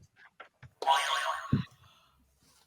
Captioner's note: boing